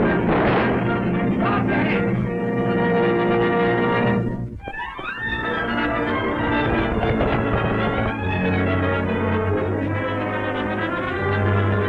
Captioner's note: shouts